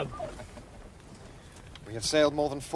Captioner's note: chuckles